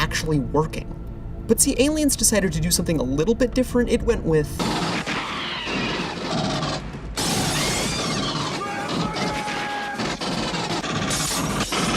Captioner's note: constant gunfire